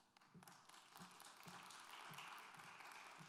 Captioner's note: applause